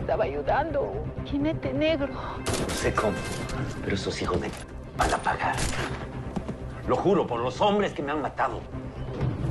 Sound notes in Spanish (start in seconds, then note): 2.4 Disparos